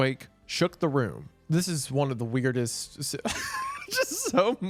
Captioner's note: laughs